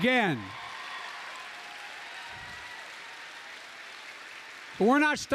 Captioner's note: applause